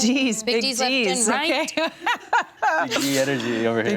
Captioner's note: chuckles; laughs